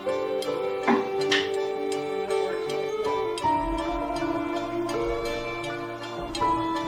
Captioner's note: reflective music; tools banging